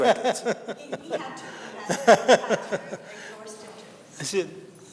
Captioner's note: panelists laughing